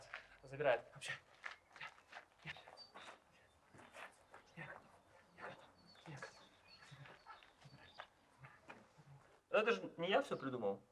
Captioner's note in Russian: громко дышит и бормочет